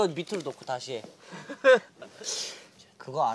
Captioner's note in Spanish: jeje